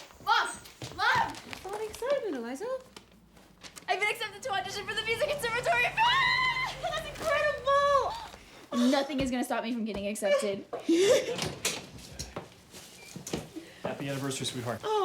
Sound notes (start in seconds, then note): 0.0 birds chirping; 6.5 mom yells happily; 10.2 Mom laughs